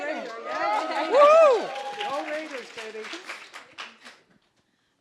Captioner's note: applause, cheering